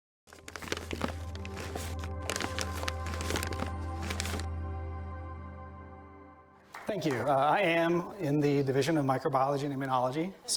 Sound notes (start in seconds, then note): 0.2 crinkling Paper